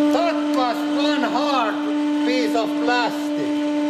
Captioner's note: none